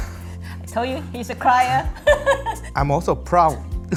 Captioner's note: laughs